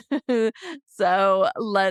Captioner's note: laughs